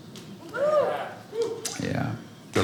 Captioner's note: audience cheers